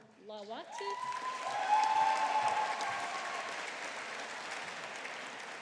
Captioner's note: audience applauding